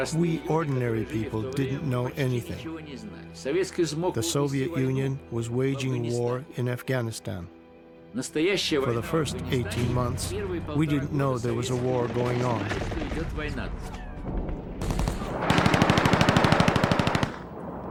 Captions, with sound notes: We ordinary people didn't know anything. The Soviet Union was waging war in Afghanistan. For the first 18 months we didn't know there was a war going on. (guns blast)